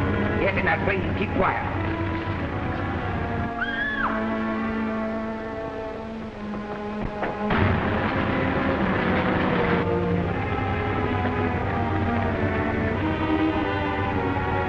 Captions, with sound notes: - Get in that plane and keep quiet. (Jean screaming)